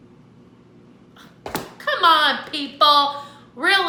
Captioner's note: scoffs